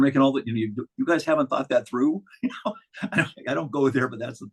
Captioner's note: chuckling